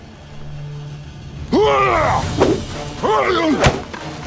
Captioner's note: yells